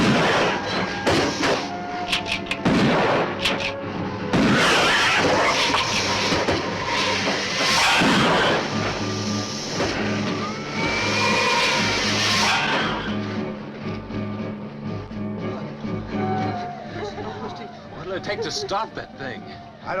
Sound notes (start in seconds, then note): 0.1 gun firing; 4.5 gun firing; 4.5 lizard hissing; 10.9 suspenseful music